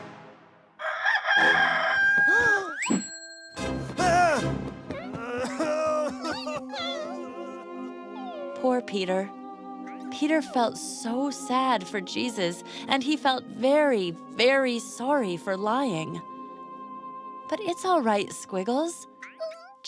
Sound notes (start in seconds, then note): 0.8 crowing; 3.6 shouting; 5.0 crying